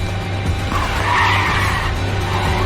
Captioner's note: brakes screeching